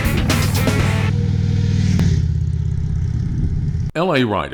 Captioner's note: motorbike engine roaring